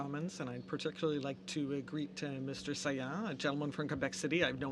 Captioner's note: speaking french